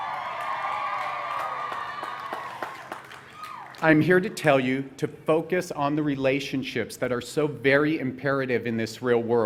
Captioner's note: cheering